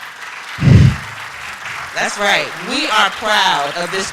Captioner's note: applause